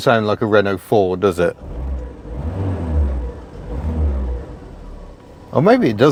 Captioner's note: engine revs